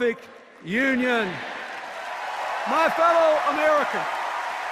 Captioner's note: cheers and applause